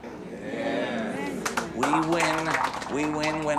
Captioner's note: scattered applause